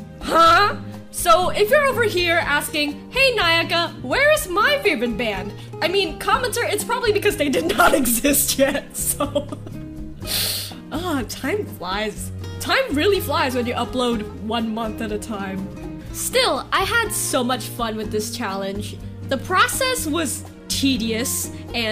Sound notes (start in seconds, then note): 7.7 laughing; 10.2 inhaling through teeth